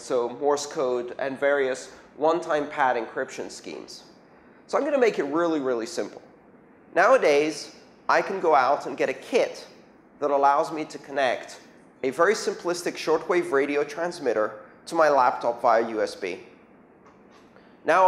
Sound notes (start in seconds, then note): 8.6 radio